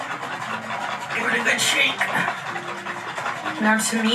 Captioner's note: liquid sloshes